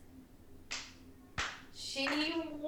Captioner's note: Maisie clapping